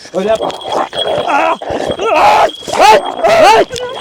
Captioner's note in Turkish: Hırlama ve boğuşma sesleri